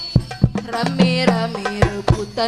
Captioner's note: laugh